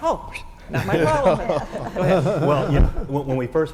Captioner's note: laugh